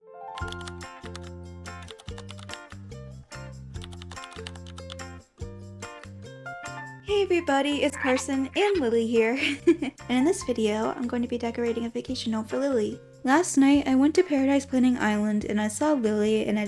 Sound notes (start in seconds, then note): 0.2 typing sounds; 7.7 frog croak; 7.7 higher-pitched frog croak; 9.2 chuckles